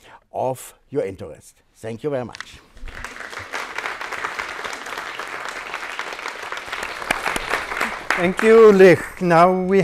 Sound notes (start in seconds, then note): 2.8 applause